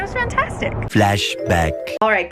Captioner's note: computer Voice